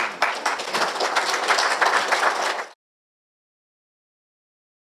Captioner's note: applause